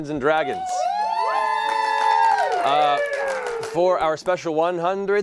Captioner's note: cheering